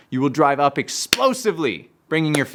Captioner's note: palms slapping